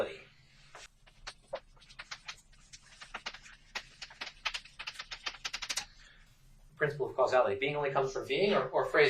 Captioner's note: writing on chalkboard sounds